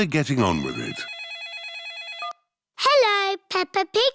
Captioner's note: phone rings